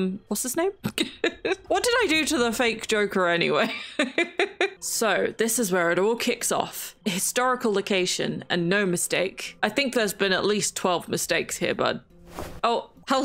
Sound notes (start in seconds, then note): 4.1 laughs